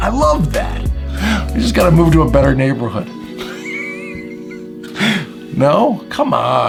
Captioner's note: laughs